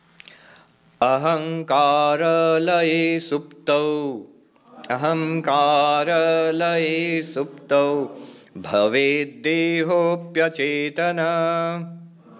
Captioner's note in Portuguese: Recitando verso do livro em sânscrito